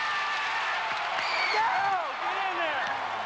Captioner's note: crowd cheering